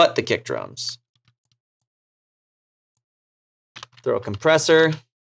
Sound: mouse clicking

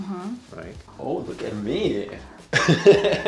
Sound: laughs

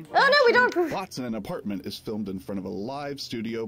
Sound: male Voice

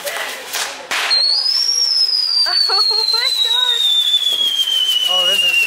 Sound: fireworks whistling

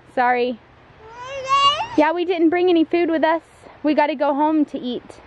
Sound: babbles curiously

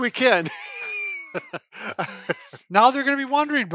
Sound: laughing

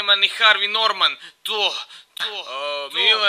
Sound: moaning

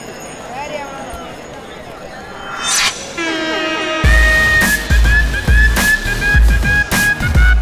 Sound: people clamoring at market

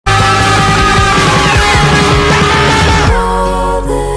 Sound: screaming

